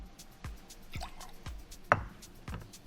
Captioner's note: clinks; liquid pours; thuds